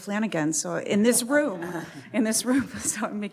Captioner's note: chuckles